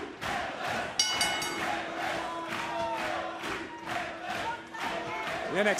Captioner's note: bell ringing